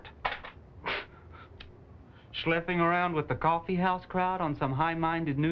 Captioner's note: scoffs